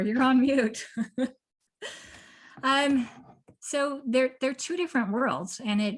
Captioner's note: laughter